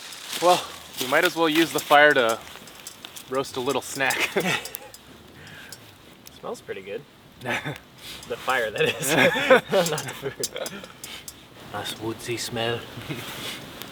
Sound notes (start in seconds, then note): 8.7 both laugh; 11.2 British accent